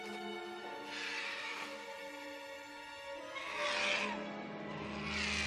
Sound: birds squawking

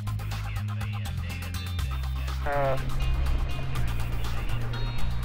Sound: background radio noise

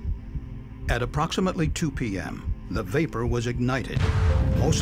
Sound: sound of explosion

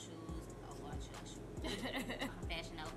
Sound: laughs

